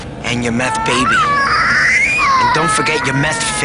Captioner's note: baby crying